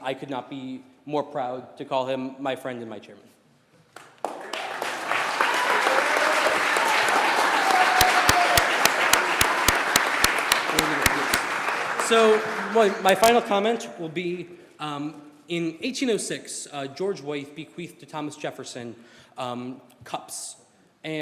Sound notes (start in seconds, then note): 11.5 applause